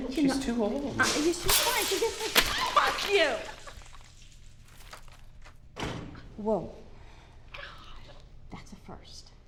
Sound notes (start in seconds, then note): 1.0 loud crash